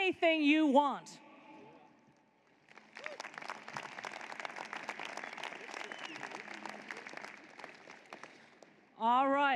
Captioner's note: applause